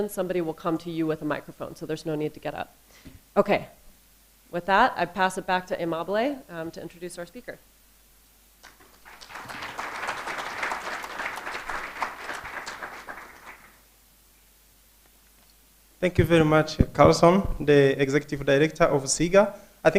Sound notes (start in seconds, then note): 8.6 applause